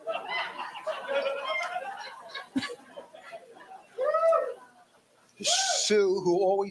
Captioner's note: audience laughs and applauds